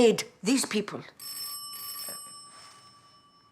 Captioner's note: telepon berdering